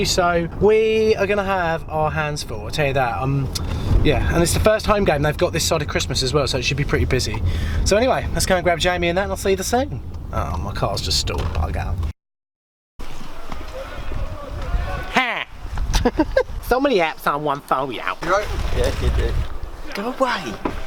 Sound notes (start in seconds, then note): 15.9 laughs